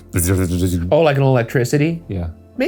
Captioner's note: imitating electric shock